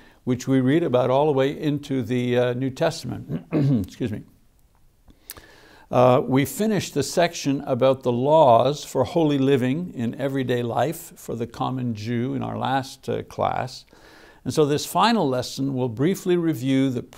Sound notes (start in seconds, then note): 3.3 clears throat